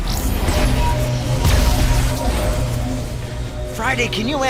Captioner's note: groans; electrical humming